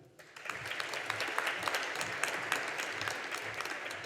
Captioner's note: audience applauding